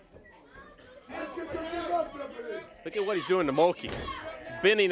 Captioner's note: crowd chatter